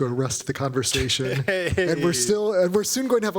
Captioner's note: chuckling